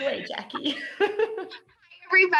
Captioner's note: laughs